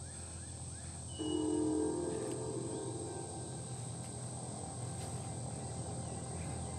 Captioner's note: alarm blares; alarming music